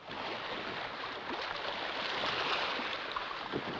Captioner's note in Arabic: الأمواج تتكسر